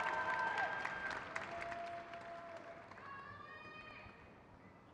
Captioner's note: crowd claps